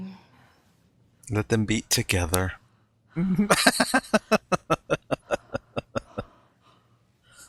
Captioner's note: laughing